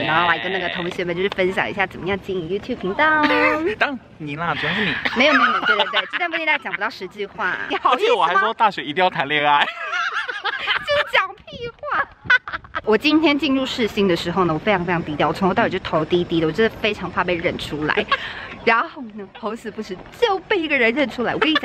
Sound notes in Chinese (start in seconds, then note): 4.6 哈哈哈哈哈